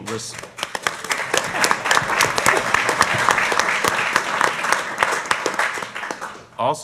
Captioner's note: applause